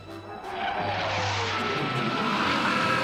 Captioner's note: jet engine streaking